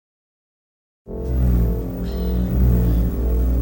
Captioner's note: vibrating noise